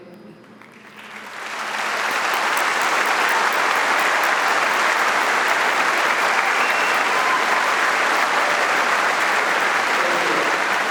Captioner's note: audience applauding